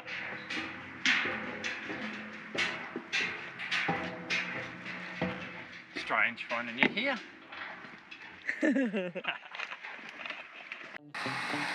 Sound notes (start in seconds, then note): 1.6 foot steps on metal; 8.4 laughs